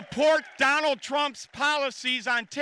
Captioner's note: applause